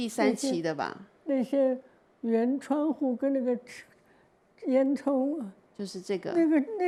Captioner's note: Mandarin; Mandarin